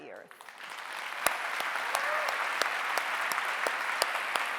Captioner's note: audience applauding